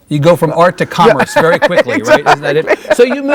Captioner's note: Isabella laughing